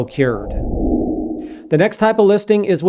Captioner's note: air whooshing